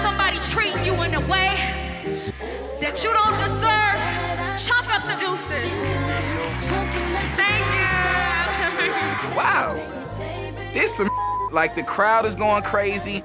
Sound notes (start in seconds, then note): 5.8 applause